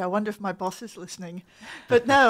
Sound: laughs

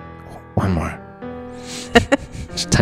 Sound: laughs

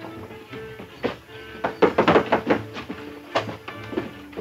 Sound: knock rapping

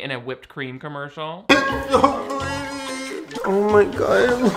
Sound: Shane whines

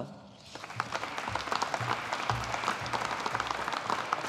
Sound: audience applauding

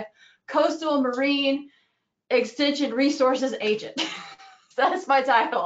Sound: laughs

